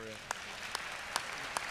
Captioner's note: applause